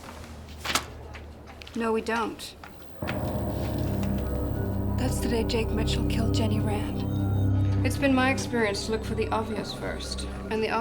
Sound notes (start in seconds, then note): 0.0 paper rustling; 3.5 dramatic music